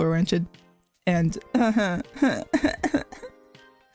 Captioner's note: cries